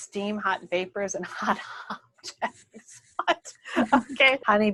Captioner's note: laughter